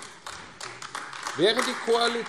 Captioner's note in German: Beifall AfD